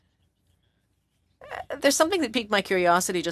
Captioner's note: speaking French